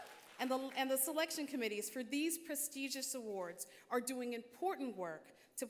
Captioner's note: applause